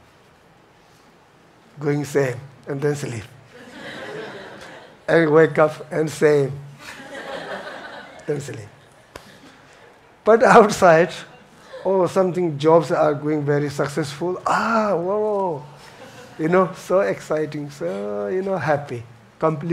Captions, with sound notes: Going same, and then sleep. (audience laughs) And wake up and same, then sleep. But outside. Oh, something, jobs are going very successful, ah, whoa, so exciting, so happy. Complete up.